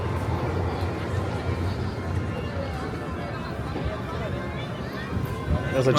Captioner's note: people chatter in background